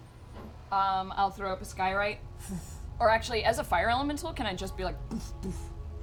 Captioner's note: fire flares